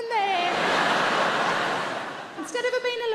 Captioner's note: audience laughing